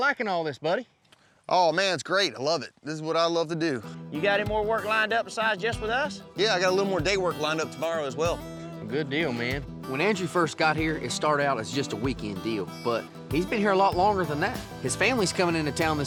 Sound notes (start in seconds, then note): none